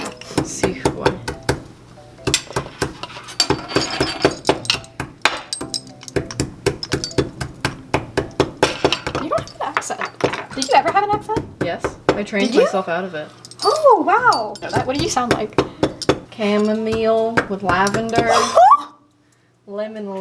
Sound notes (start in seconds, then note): 0.1 pestle and mortar banging; 2.4 measuring cups clanking; 18.3 gasps